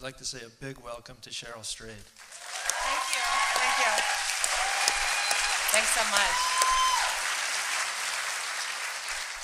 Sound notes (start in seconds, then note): 2.2 applause and cheering